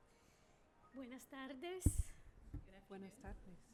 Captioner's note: speaking spanish